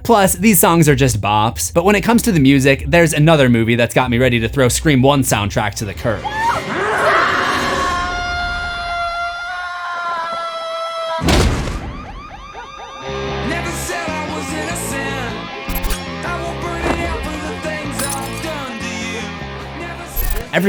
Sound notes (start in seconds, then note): 6.1 screaming; 6.6 thud